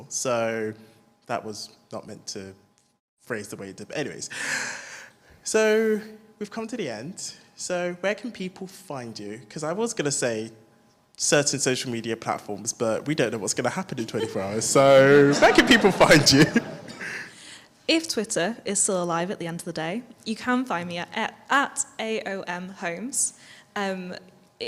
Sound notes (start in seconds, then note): 16.9 all laugh